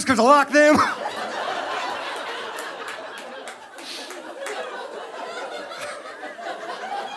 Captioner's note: audience laughing